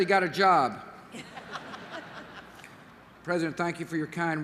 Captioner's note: laughter